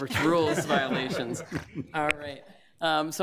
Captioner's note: laughter